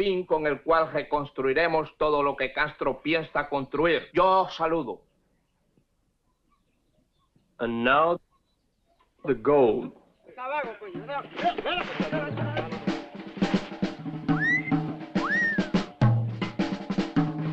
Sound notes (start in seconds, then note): 8.8 upbeat instrumental music; 10.3 men chattering; 15.1 wolf whistles